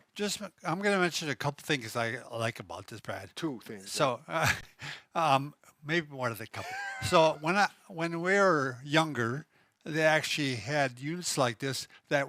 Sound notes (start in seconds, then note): 6.5 laughs